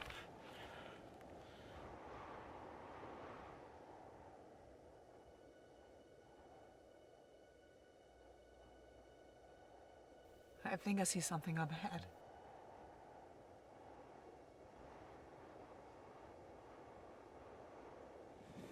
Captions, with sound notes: (wind blowing) (suspenseful music) (wind blowing) - I think I see something up ahead.